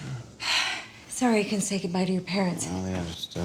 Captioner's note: sighs